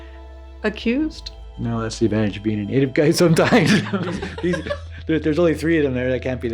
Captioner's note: laughs